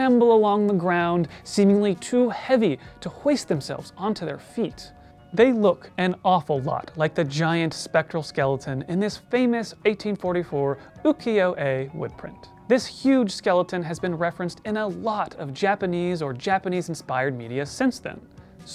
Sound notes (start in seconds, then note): none